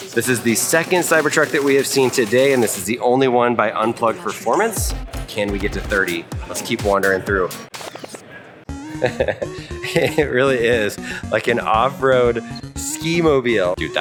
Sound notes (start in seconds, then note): 8.6 high energy music; 8.8 host chuckling